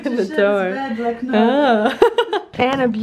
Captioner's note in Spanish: risas